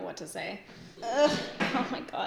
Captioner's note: groans